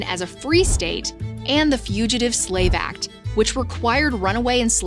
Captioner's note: graphic whooshes